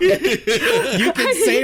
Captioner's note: laughter and chatter